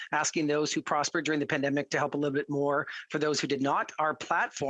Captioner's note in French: voix de l'interprète